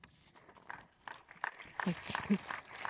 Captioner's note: audience applauds